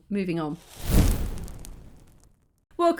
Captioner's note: flames burning paper